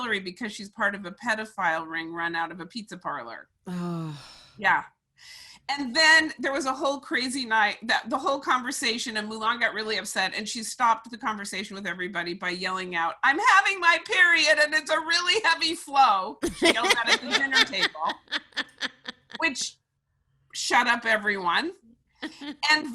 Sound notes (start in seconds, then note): 16.4 laughing